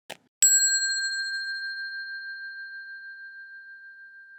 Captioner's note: bell dings